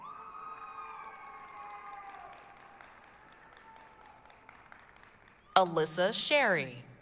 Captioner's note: applause, cheering